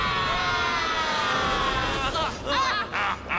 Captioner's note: laughs evilly